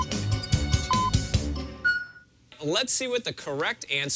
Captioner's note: electronic beeping